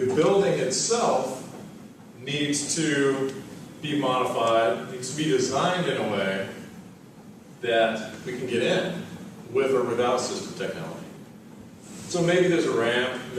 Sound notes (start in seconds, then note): none